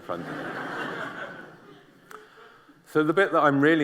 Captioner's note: laughter